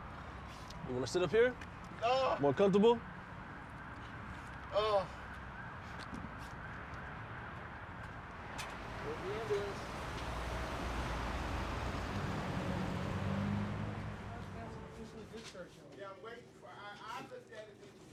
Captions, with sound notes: (sirens wailing) - You wanna sit up here? - Gahhh! - More comfortable? - Ugh! - There's the ambulance.